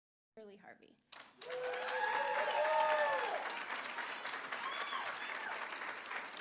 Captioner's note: applause; cheering